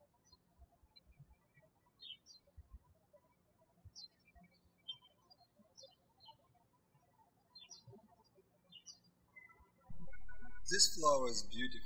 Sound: birds chirping

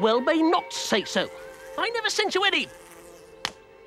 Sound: buzzing

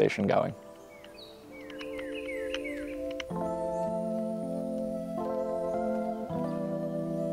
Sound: birds chirping; bright music

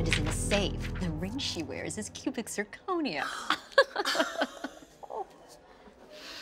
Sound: laughs

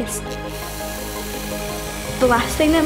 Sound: drill buzzing

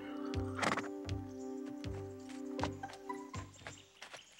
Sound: horse snorting

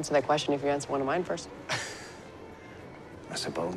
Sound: chuckles

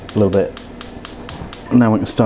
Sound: gas ignition clicking again

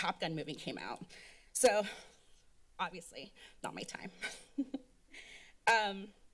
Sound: chuckles

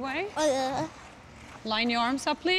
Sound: boy squawks

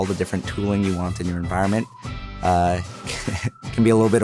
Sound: chuckles

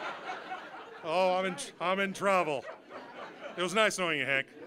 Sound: audience laughing

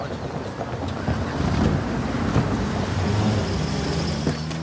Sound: car sounds

